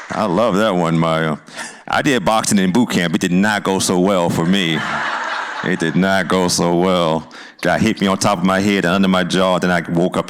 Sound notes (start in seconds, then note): 4.4 laughter